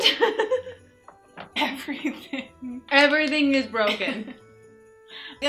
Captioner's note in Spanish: risas